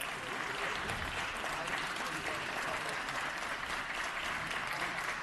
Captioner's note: applause